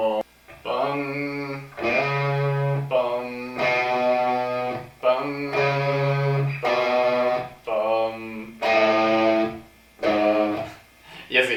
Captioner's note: hums in spanish